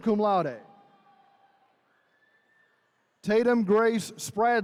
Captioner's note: attendees cheering